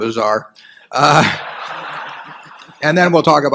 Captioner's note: laughter